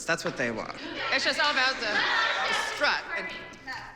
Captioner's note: clamoring